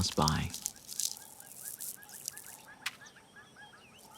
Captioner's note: birds calling in distance